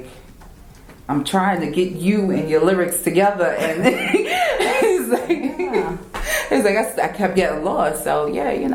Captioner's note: laugh